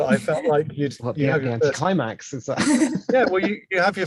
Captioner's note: group laughs